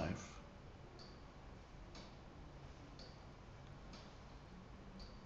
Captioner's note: clock ticking